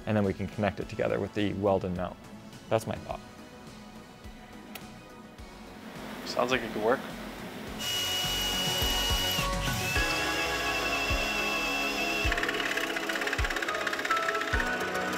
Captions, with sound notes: And then we can connect it together with the welded mount. That's my thought. - Sounds like it could work. (drill whirring) (saw rattling)